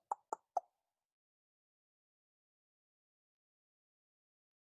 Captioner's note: tongue clicks